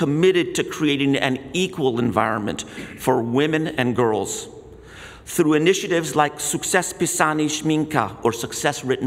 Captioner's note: speaks in Polish